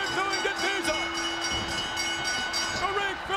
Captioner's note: bell rings